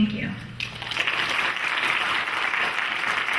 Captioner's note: clapping